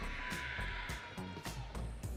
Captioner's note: audience cheering